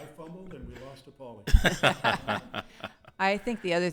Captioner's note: people laughing